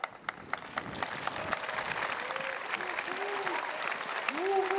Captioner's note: audience applauds